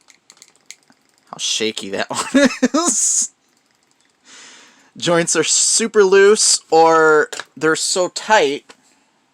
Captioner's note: laughing